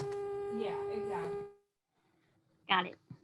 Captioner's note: background noise stops